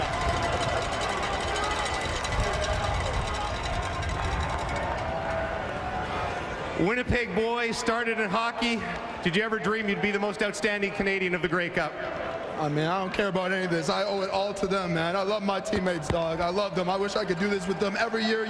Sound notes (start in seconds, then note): 5.1 cheering and Applause